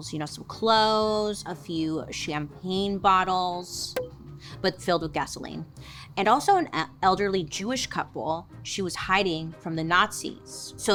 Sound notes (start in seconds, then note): 4.0 cork pops